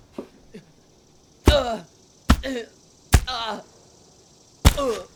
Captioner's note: donovan grunting as he's punched